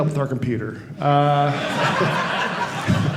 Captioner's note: audience laughing